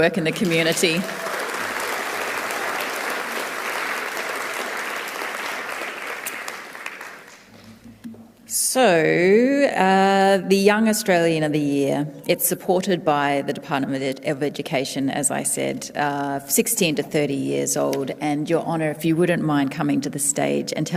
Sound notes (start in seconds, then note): 4.1 applause